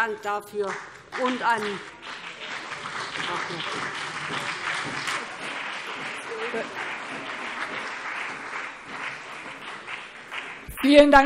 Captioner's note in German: Beifall BÜNDNIS 90/DIE GRÜNEN und CDU